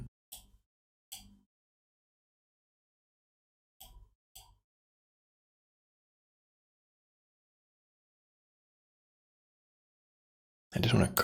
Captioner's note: blank Audio